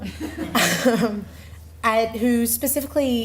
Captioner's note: laughing